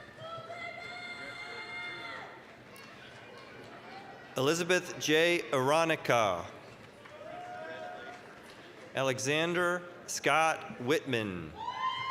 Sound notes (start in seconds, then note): 1.5 applause, cheering; 6.6 applause, cheering; 11.9 applause, cheering